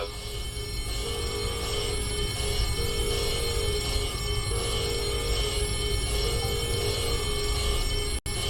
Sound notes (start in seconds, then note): 0.0 alarms & Bells